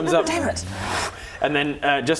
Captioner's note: whoosh